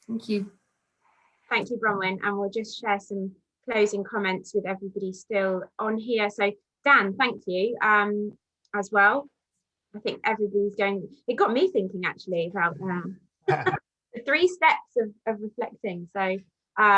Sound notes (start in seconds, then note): 13.4 laughs